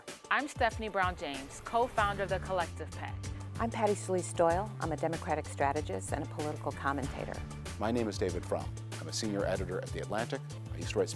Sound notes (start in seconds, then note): none